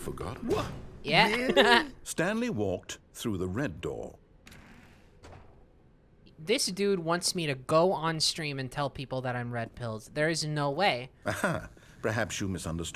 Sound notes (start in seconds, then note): 1.2 laughs; 4.6 doors open